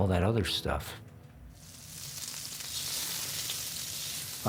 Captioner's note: pan sizzling